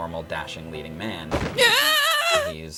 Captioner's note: screaming